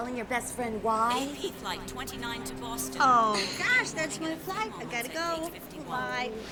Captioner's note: woman On P.A